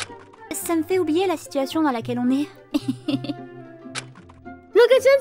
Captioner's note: embarrassed laugh